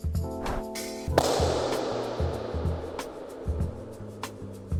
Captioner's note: clap echo